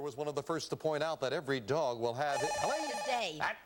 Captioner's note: buzzer